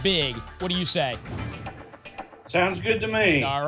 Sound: whoosh

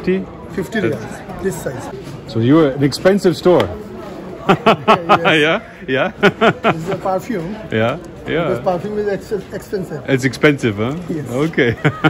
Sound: laughs

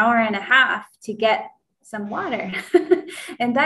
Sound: laughs

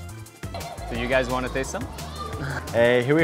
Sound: lively Latin music; laughs

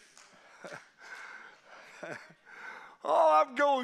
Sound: congregation applauding

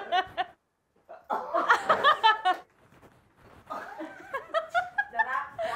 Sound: laughing; laughing continues

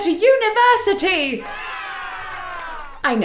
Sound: crowd cheer

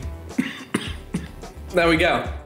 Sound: coughs

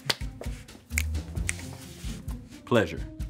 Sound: fingers snap

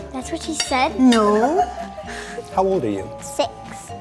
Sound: interviewer laughing

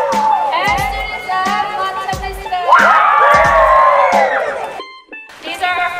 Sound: cheering

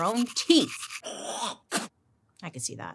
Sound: toothbrush brushing; person spits

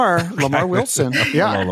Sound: chuckling

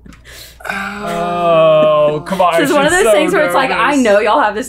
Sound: both groan

